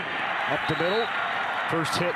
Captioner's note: referee blows whistle